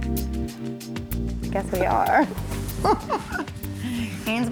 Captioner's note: gentle quirky music; giggles